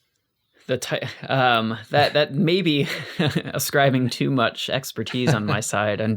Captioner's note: laughs